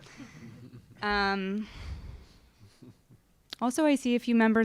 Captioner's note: audience laughing